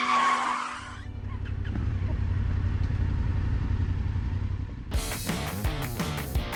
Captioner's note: tires squealing; bikes rumbling; upbeat music